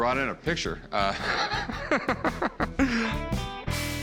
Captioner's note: laughing